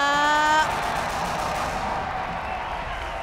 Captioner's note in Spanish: Aplausos